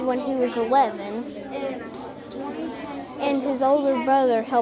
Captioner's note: students chattering